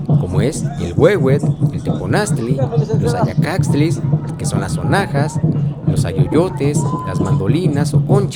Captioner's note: rattles